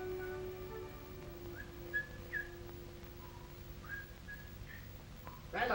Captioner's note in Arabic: يصفر بصوت خافت